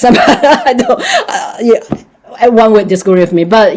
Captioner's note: laughing